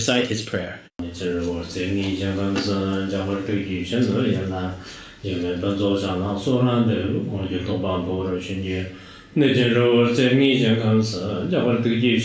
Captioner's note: giving oral transmission in Tibetan